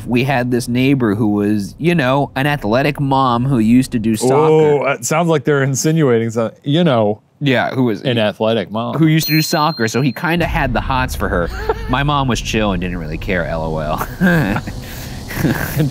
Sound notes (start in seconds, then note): 11.3 laughs; 15.4 laughs